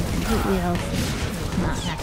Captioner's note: gunfire